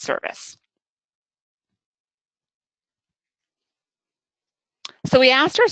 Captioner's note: silence